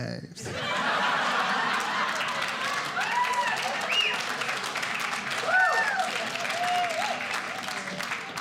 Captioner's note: audience applauding